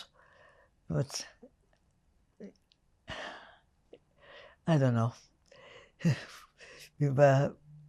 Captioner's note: sighing